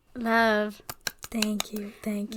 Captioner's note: claps